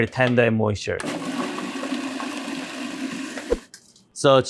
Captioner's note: blender whirring